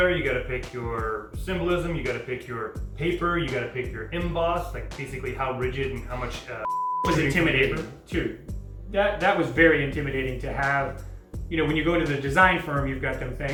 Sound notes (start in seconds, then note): 6.6 beep